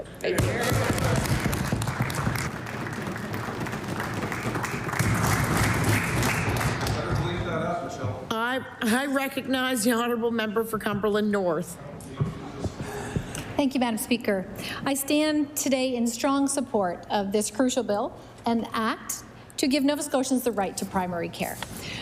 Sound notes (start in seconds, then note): 3.7 applause